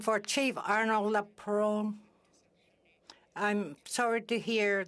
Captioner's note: speaking Alternate Language